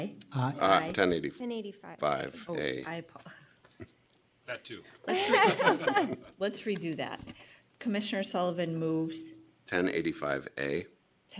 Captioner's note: laughter